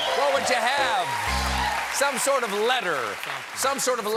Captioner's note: cheers and applause